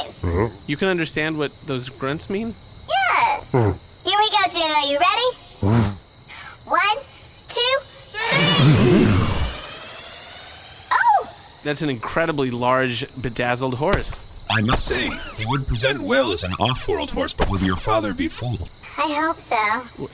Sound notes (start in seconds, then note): 8.1 enlarging machine noises; 8.2 Juno neighs in agreement